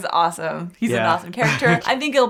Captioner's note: laughs